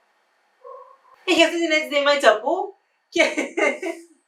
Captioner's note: laughter